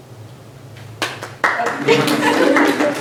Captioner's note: applause